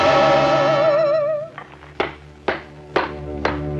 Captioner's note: banging